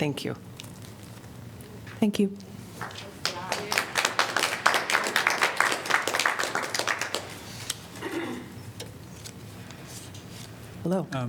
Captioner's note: applause